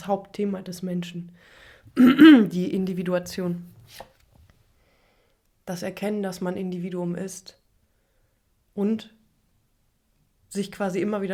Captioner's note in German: husten; räuspern